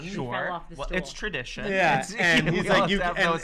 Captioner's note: laughter